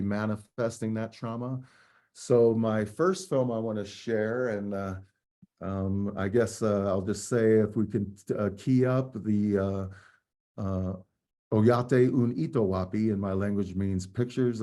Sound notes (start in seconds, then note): 7.4 speaking native language